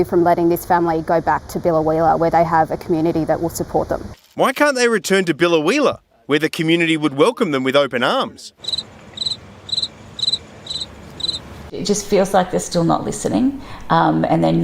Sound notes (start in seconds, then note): 9.6 sound of crickets